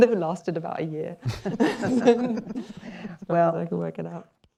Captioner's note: laughter